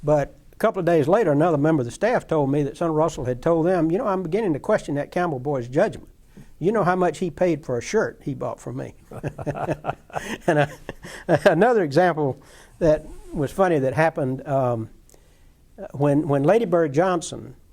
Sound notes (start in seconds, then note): 9.0 laughter